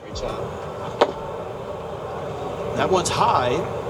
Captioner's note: soft upbeat music; thud over PA